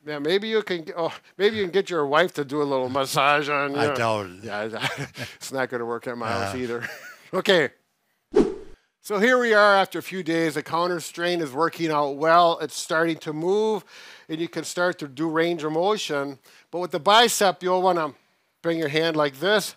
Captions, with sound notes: - Yeah, maybe you can get your wife to do a little massage on you. - I doubt it. - Yeah, it's not gonna work at my house either. Okay. (air swooshing) So here we are after a few days, the counter strain is working out well. It's starting to move. And you can start to do range of motion, but with the bicep you'll wanna bring your hand like this,